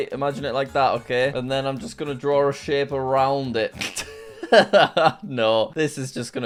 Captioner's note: laughs